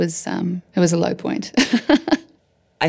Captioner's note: laughing